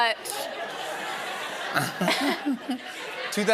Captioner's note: laughter